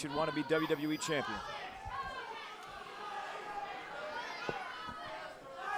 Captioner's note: crowd chatter